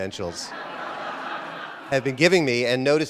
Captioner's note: audience laughter